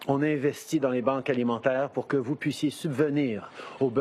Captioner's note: speaking French